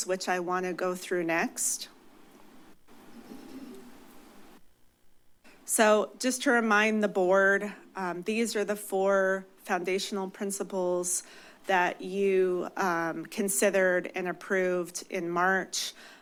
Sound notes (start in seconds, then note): 2.4 pause